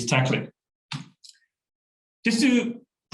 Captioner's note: keyboard keystrokes